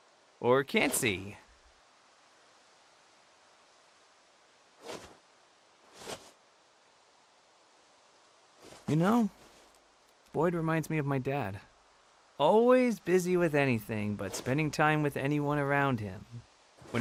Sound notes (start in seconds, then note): none